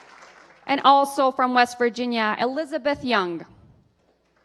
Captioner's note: applause